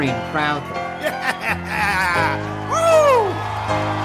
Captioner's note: laughs